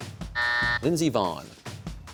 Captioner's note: buzzer